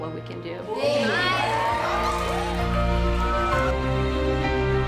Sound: class cheering; gentle music

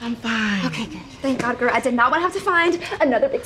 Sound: none

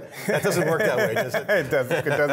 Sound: laughing

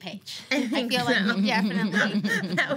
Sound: laughing

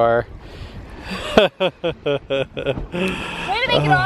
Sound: laughs

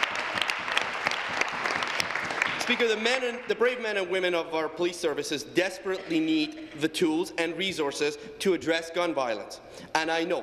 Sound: applause

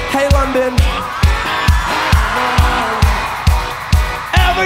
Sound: crowd screams

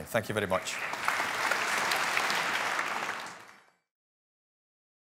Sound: applause

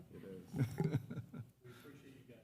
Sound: laughing

